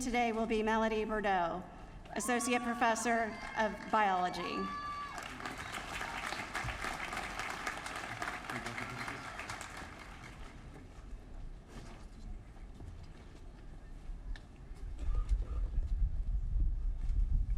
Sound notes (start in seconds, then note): 5.0 applause